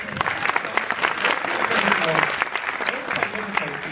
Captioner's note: audience applauds